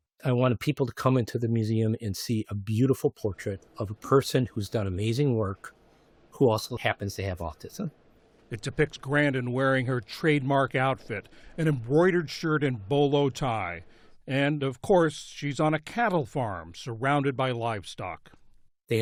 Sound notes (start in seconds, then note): 0.0 voice-over; 8.9 voice-over